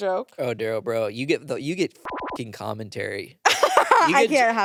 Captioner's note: beep; laughs